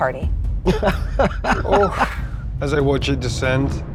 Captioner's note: laughs